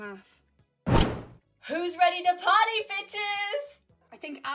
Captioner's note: loud crack